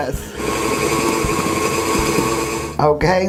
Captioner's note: machine whirling